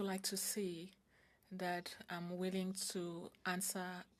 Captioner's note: speaking French